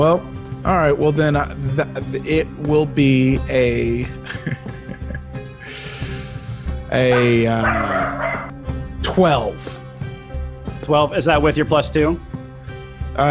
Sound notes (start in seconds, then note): 4.3 laughs; 7.0 dog barks